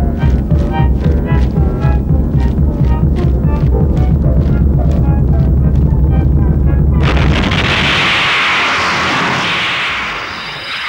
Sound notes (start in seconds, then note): 6.9 explosion